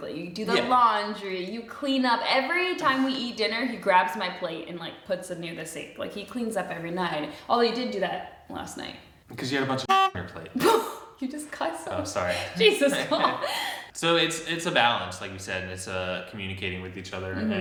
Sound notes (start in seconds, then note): 9.8 horn honks; 12.4 both laughing; 12.4 laughs